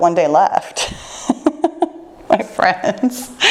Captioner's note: laughing